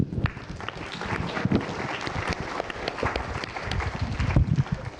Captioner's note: applause